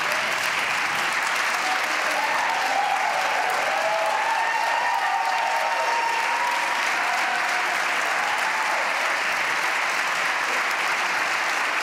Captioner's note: applause